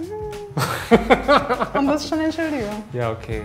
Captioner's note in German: Lachen